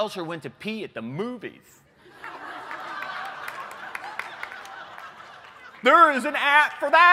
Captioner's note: laughter